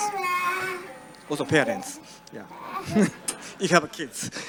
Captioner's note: audience laughs